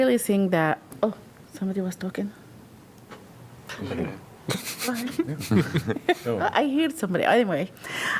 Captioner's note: laughter